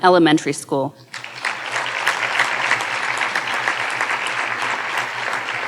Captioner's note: audience applauding